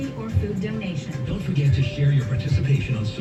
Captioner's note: on TV